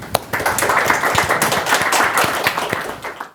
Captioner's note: attendees applauding